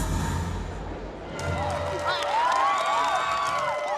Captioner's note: cheering and applause